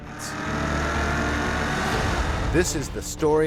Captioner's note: car accelerating